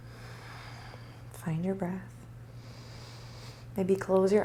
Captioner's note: breathing